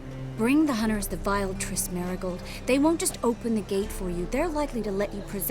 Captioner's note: none